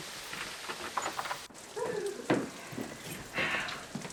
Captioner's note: door creaking; sighing